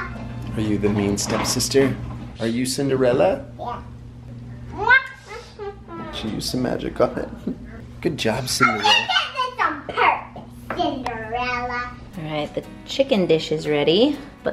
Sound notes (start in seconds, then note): 5.3 babbling